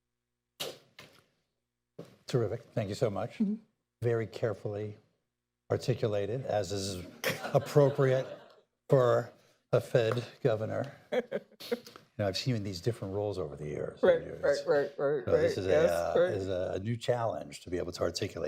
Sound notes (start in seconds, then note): 7.1 laughter